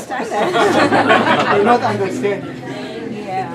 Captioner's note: laughter